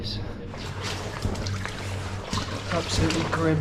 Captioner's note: water sloshing